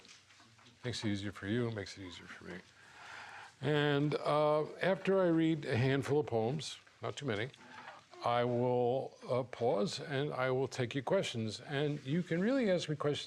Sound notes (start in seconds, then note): none